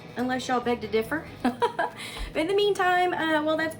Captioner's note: laughs